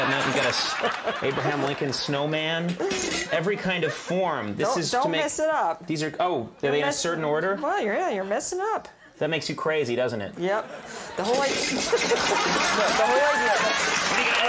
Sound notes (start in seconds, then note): 0.0 Martha laughing; 0.0 audience laughing; 11.1 audience laughing; 11.5 cookie cutters rattling; 11.7 Martha laughing; 14.2 audience applauding